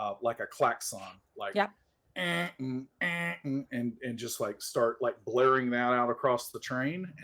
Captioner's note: imitates sirens